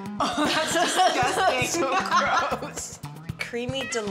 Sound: both chuckle

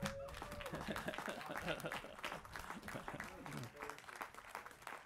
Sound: applause

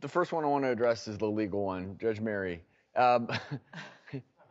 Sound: laughs; shouts

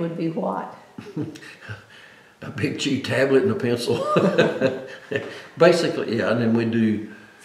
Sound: laughs

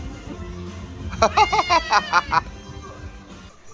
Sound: laughing

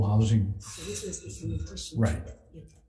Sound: distorted speech

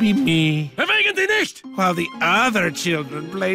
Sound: dad speaking foreign language

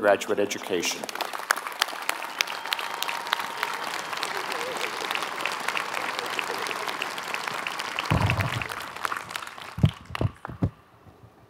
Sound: applause

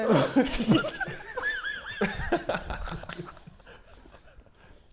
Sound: Sidemen laughing

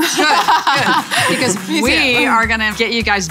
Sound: laughing

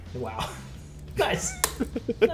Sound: laugh

